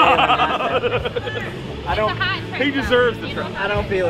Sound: people laughing

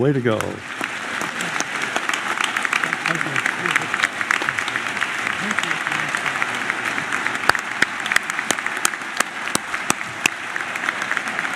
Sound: applause

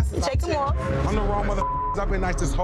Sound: beep

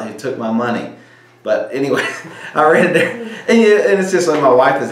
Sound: laughs

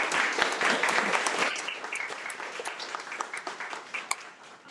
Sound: attendees applaud

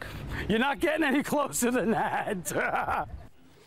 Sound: laughs

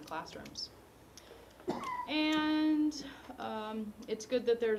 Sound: cough

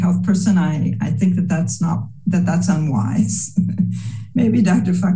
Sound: laughs

